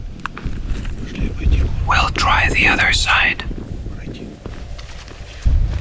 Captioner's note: whispers